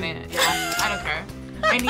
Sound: React laughs

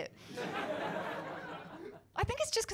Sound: laughter

